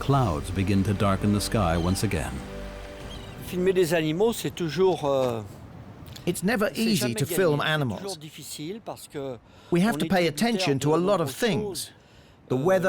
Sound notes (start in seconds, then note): 3.7 speaking French